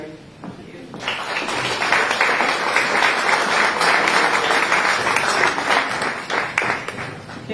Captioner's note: applause